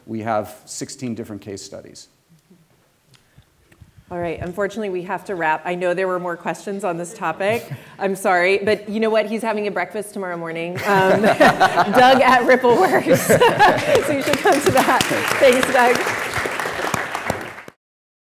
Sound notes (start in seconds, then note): 10.8 laughs; 16.0 applause